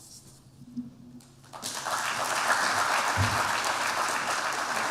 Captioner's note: applause